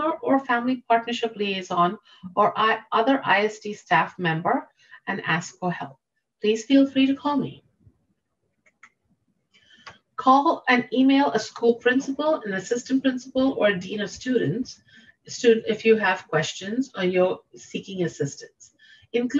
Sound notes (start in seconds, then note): 8.6 mouse clicking